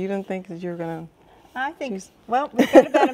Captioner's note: chuckling